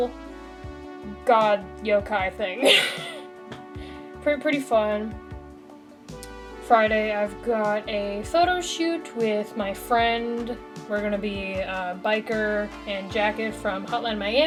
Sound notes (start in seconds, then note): 2.6 laughs